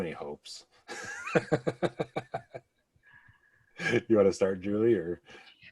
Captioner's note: laughs